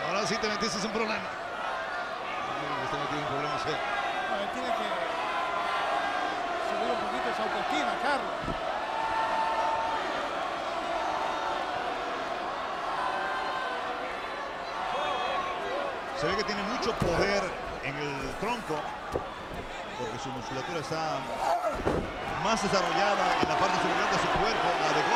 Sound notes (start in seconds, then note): 9.7 applause